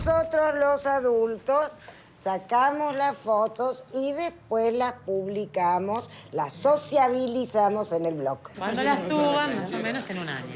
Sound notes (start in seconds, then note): none